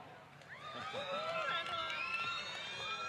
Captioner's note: applause